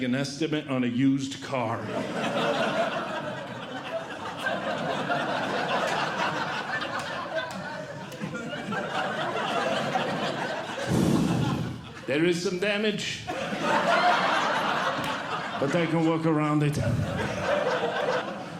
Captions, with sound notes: estimate on a used car. [Audience Laughing] “There is some damage. [Audience Laughing] “But I can look around it.